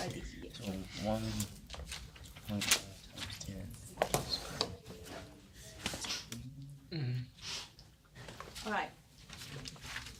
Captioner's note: students murmur